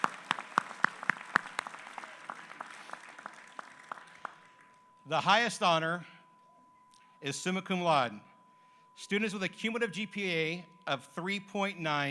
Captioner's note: applause